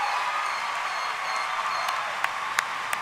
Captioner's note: cheering and applause